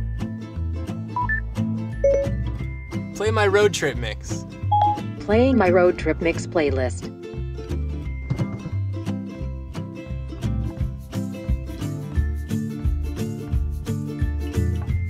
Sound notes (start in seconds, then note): 2.0 beeping